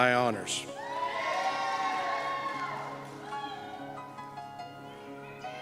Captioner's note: cheers and Applause